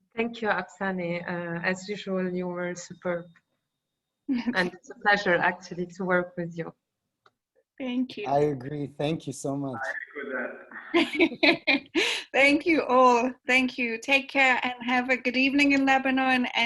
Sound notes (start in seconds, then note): 9.7 laughing